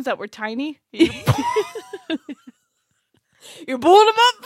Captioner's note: laughs